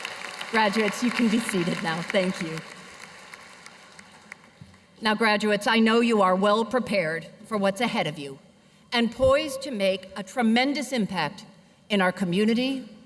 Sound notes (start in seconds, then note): 1.5 cheers and applause